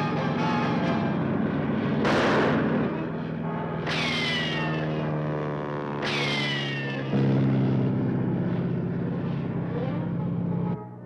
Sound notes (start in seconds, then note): 2.0 rifle firing